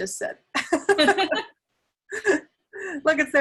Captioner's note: laugh